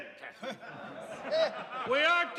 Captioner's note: people laughing